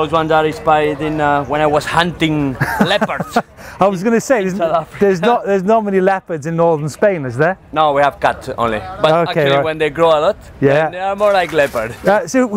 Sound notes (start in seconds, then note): 2.6 laughing